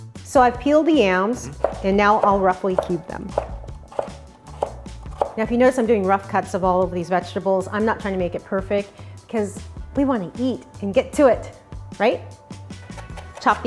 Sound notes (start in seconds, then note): 3.7 soft chopping